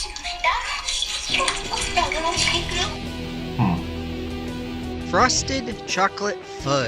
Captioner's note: hentai noises